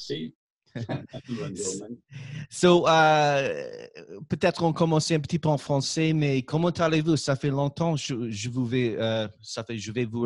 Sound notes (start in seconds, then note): 0.8 laughing; 1.7 speaking in French; 4.7 speaking in French